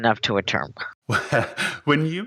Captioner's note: laughs